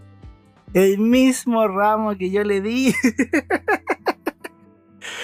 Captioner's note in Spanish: risas